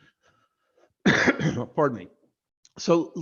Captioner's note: coughing